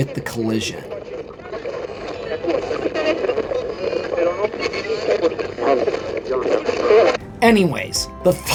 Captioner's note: creepy radio static